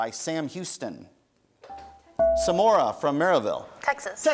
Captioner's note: bell rings